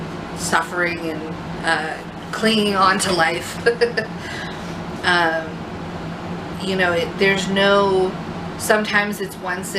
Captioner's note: laughs